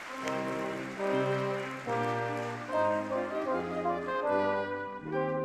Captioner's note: audience clapping